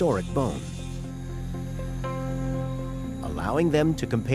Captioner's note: saw whirring